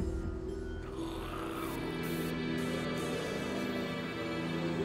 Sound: zombies growling

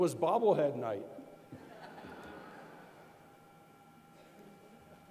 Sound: laughing

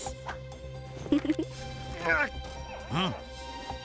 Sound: Sema chuckles; Tobor grunting

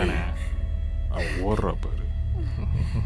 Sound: girl breathing fast

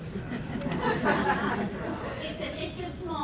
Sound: laughter

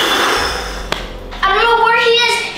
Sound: exhales deeply; hand thuds

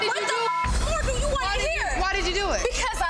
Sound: beep

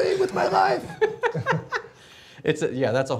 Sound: laughing

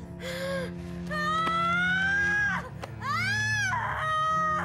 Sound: screaming

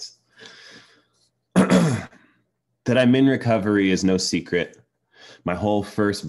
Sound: clears throat

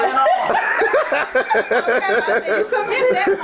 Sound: laughs loudly

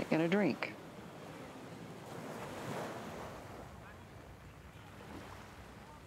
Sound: wind

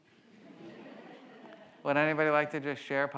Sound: audience laughs

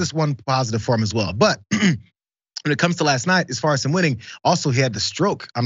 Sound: cough

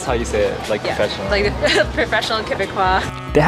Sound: laughs

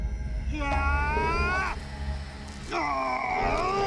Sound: yells

